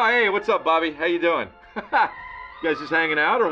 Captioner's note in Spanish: risas